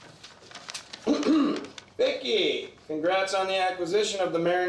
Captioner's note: clears throat